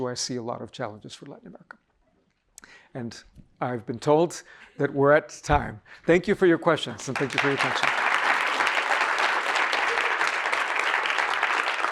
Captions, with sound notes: I see a lot of challenges for Latin America. And I've been told that we're at time. Thank you for your questions, and thank you for your attention. (audience applauding)